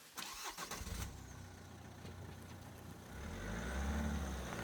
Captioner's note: engine revving